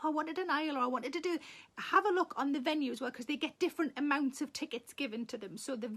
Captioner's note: none